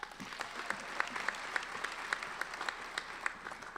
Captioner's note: applauding